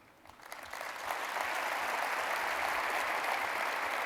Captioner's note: applause